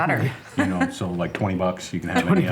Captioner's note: laughs